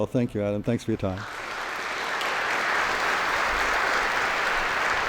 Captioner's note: applauses